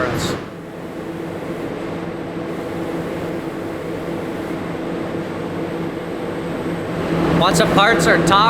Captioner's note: buzzing sound